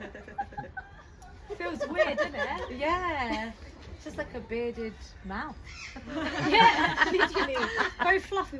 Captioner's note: laughter; laughter